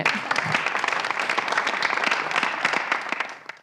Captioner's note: audience applauds